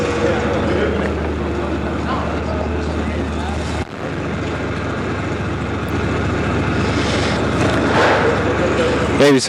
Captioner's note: background fabrication noise and inaudible dialogue